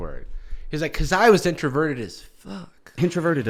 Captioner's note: whispers